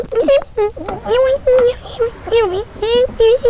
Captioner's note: squeaking